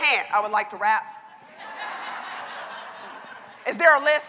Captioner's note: laughter